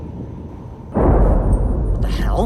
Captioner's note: thunder